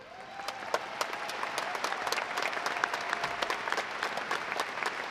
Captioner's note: audience applauding